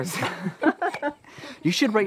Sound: all laughing

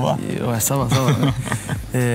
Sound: laughs

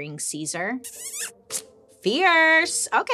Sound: lips smacking

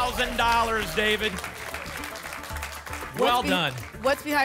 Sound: applause and cheering

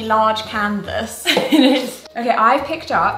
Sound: laughs

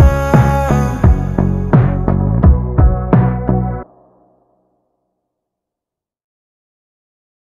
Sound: vocalizing continues; somber chill music continues

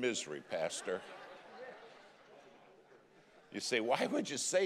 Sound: congregation laughing

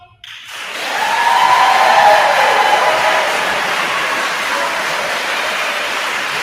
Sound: attendees applauding; attendees cheering

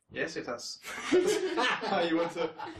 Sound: laughing

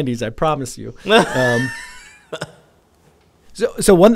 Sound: laughs

